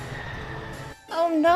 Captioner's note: screaming of jet engine